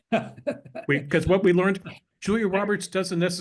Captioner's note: laugh